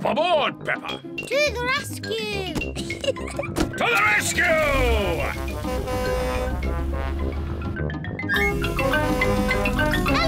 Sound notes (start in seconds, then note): 5.3 horn blares; 8.9 horn blares